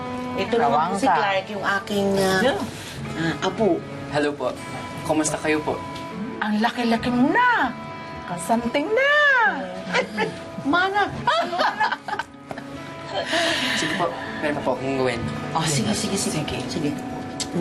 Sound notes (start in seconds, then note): 11.1 annie laughs; 11.2 chuckles